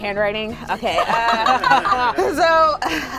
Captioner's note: group laughs